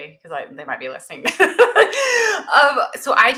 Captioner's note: laughs